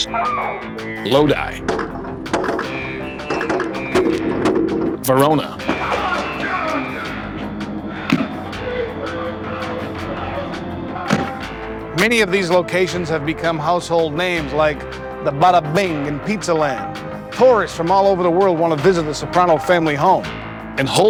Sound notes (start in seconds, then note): 2.7 gunshots